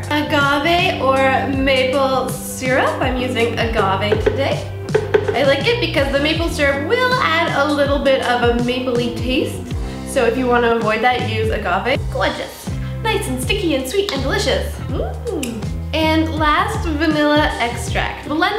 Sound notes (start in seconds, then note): 15.3 licking finger